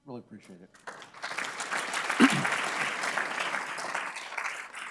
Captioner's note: audience clapping